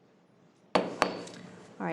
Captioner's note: gavel bangs